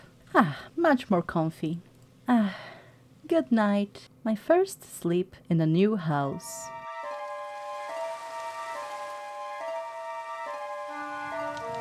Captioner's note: eerie Music; rain. Fire crackling